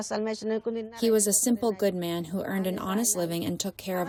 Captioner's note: through translator